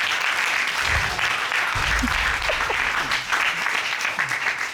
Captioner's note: applause